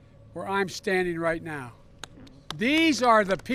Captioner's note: applause